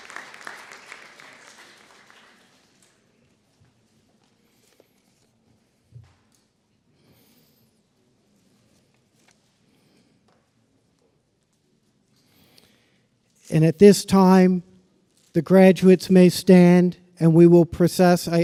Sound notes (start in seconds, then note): 2.0 applause